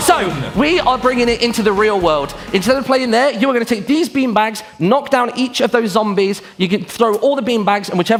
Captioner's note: applause